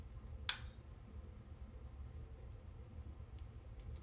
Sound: lighter flicking

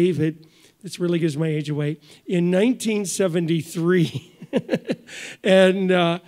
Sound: laughs

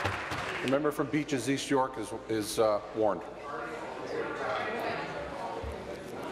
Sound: applause

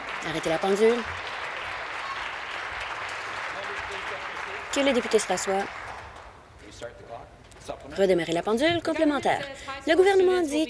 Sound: applause

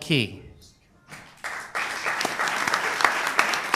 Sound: applause

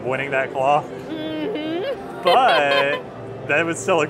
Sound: laughs

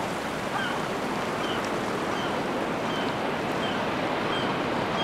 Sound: seagulls screeching

